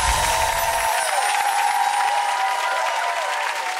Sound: crowd applauds

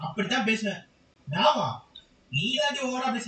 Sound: speaking irrespectfully

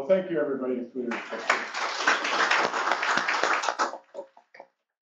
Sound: applause

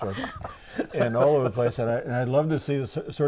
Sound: laughing

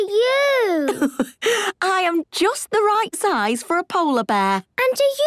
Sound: laughs

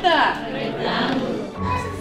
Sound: families in unison

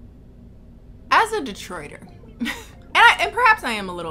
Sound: laughs

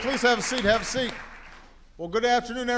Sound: applause

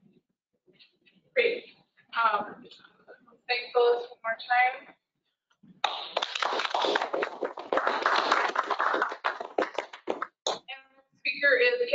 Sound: applause

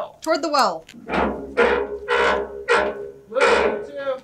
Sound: creaking turnbuckle

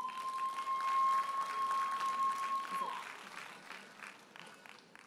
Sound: audience cheers and applauds

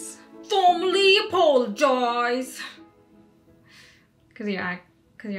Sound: mocking

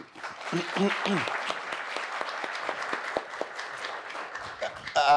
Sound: audience applauds

